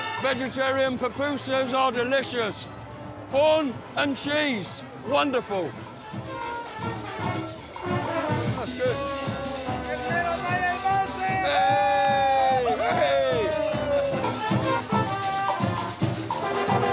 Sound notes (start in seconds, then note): 7.1 band music; 12.1 cameraman cheer; 14.4 band music